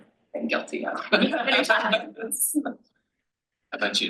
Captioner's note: panel laughs